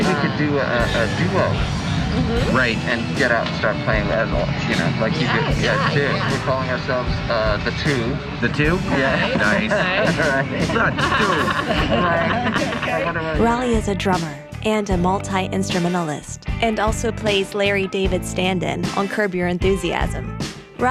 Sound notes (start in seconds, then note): 8.7 laughter; 12.6 laughing